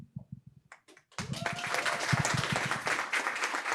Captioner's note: applause